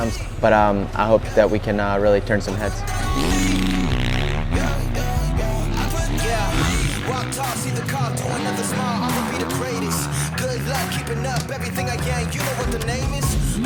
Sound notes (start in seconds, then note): 3.4 engine revving